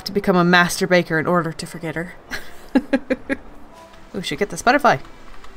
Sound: laughs

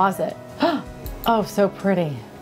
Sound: gasps

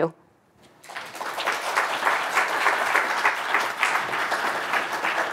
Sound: audience applauding

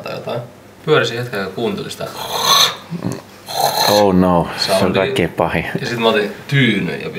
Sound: grunts

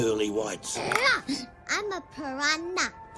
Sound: bites aggressively

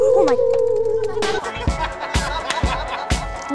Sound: laughing

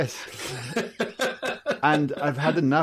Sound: guy laughs

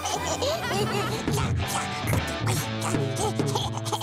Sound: laughing; babbling

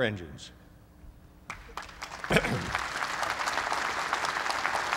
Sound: applause

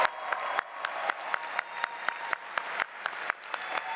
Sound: audience applauds

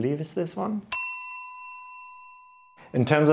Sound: graphic dings

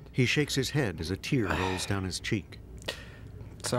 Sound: sighs

